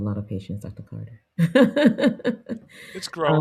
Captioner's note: laughs